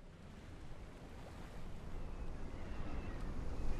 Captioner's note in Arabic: يخبو صوت هدير المياه بلطف